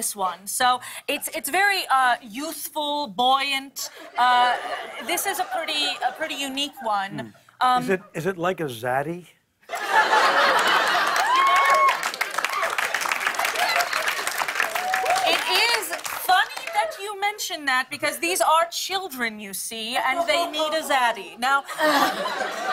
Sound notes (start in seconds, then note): 9.7 laughter; 10.4 cheers and applause